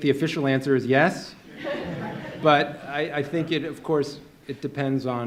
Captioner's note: laughter